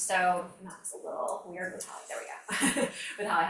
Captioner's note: laughs